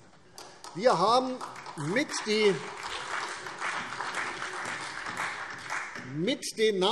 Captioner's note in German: Beifall